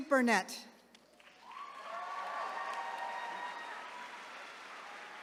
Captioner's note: attendees cheering